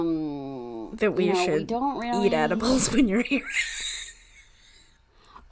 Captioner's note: laughs